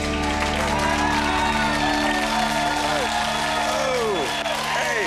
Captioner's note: audience applauds and cheers